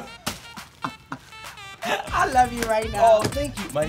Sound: laughs

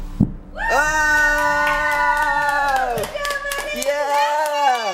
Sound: cheers and applause

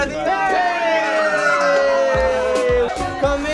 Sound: girls screaming

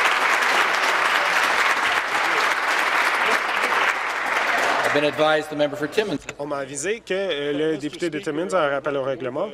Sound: applause

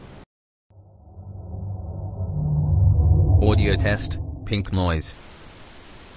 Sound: eerie ethereal transitional SFX

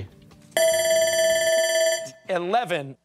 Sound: timer

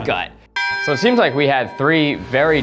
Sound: bell dings

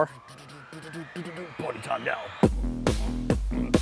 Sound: beat boxing

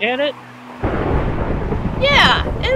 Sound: thunder booms

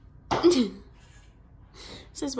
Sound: laughs

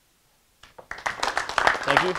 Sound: audience applauding

